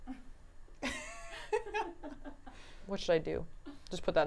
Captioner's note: laughs